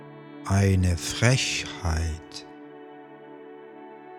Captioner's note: german